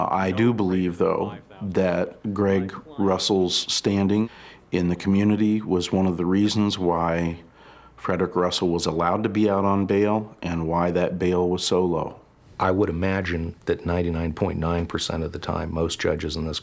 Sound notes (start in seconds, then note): none